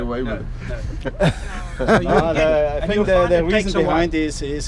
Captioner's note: laughing